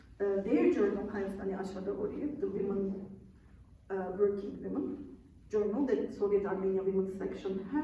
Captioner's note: non-english speech